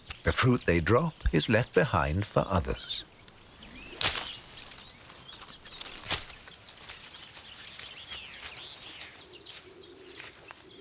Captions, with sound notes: The fruit they drop is left behind for others. (leaves rustling) (birds chirping)